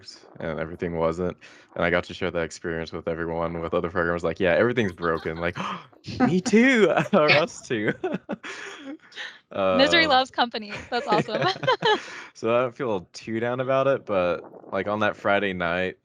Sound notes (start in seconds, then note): 7.8 laughs